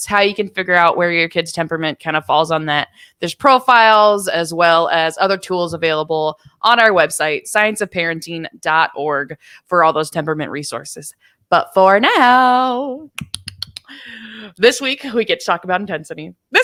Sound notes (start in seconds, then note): 12.4 clapping rapidly; 13.3 chuckles